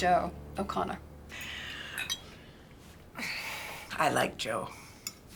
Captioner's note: sighs